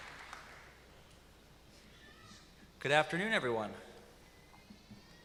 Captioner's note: applause